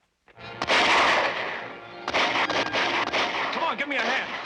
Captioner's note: gunfire